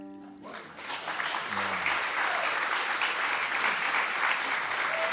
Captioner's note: applause